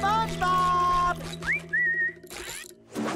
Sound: whistling

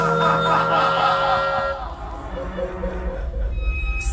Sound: voice echoing

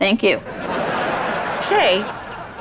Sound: laughing

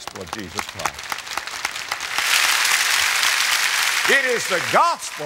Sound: audience applause

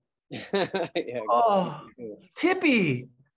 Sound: laughs

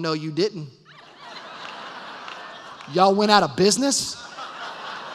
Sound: laughter

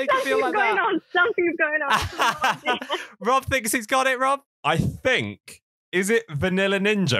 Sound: laughs

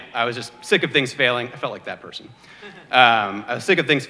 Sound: baby crying

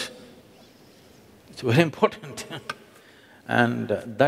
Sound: laughs

